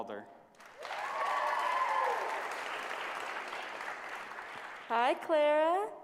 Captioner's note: applause